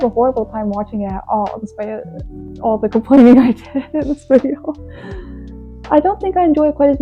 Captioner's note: laughs